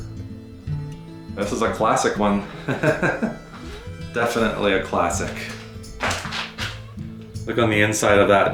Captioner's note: laughs